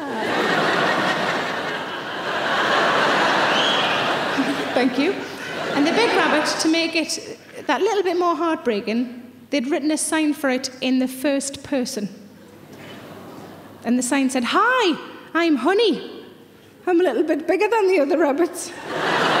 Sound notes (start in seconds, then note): 0.0 audience laughing; 3.4 audience member whistles